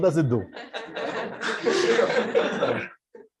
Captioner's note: laughter